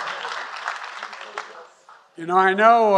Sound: applause

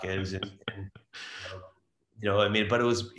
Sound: laughs

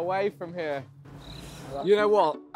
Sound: crickets

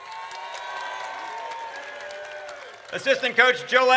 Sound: audience cheers

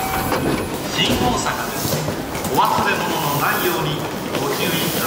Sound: announcements in japanese

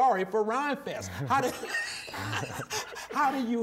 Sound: laughing

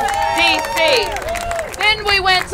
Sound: applause

